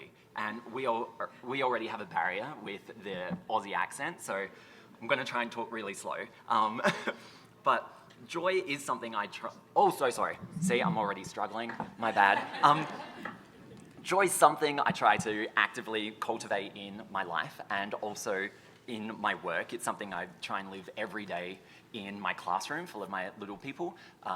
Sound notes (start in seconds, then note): 6.8 chuckles; 12.1 audience chuckles